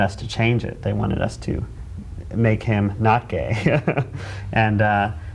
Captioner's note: laughing